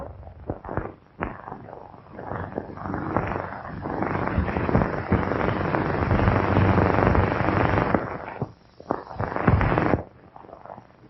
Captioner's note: pounding